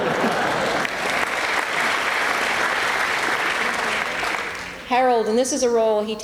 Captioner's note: applause